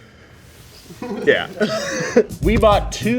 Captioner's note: laughing